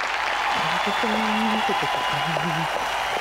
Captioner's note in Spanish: Aplausos